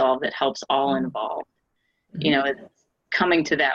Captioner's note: none